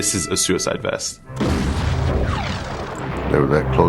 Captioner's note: explosion booming